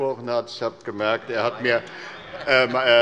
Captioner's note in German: Heiterkeit bei Abgeordneten der CDU